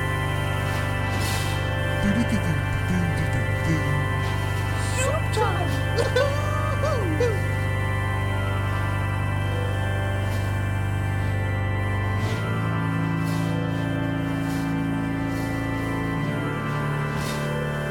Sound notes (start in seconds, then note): 1.7 male Voice; 4.7 bizarre laughter